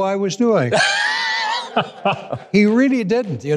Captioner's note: laughing